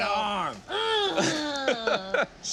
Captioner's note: moans; laughs